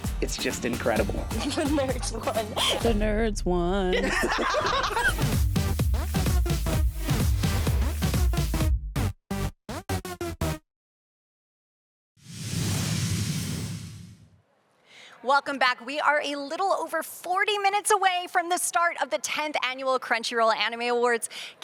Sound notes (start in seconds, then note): 3.9 all laughing